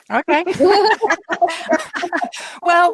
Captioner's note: laughter